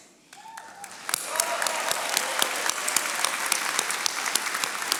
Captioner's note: attendees applauding